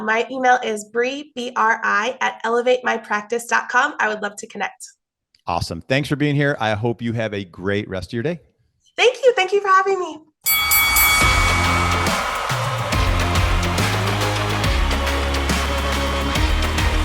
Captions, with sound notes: My email is Bri, bri@elevatemypractice.com. I would love to connect. - Awesome. Thanks for being here. I hope you have a great rest of your day. - Thank you. Thank you for having me. (boxing match bell rings) (triumphant music)